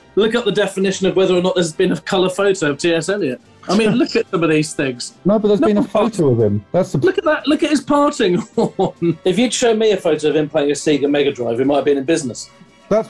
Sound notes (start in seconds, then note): 8.2 laughing